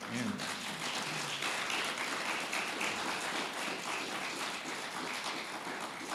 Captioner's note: audience applauding